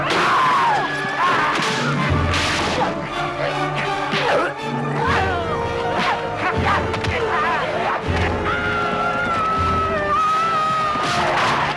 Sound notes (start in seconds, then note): 0.2 raider shouts; 4.2 all grunting; 8.7 villager yells